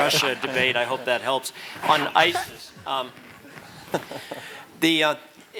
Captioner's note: laugh